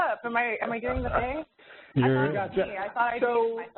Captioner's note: chuckling